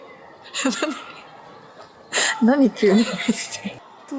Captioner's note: laughs